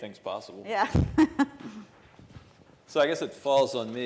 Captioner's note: laughing